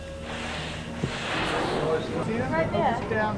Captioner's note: tense ambient music; whale blowhole spraying